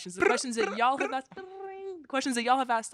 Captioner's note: hosts mimicking phone ringing